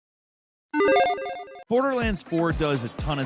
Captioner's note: beep